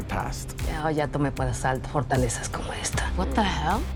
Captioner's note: in Spanish